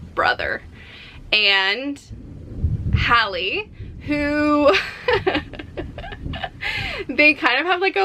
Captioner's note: chuckles in embarrassment and excitement